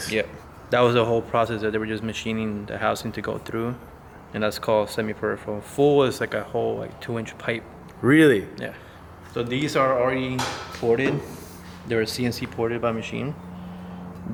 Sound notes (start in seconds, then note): none